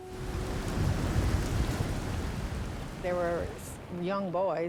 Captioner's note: waves crashing